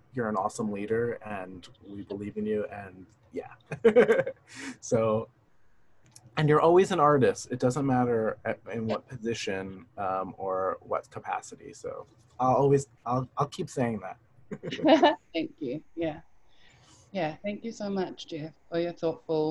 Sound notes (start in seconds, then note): 3.7 laughter; 14.6 laughter